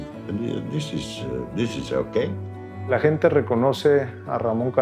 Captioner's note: in Spanish